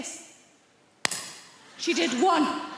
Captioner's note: palms smack; audience laughing